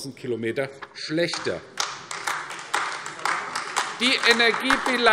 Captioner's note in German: Beifall AfD